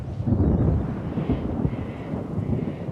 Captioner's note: thunder rumbles